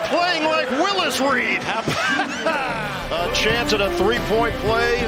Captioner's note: laughter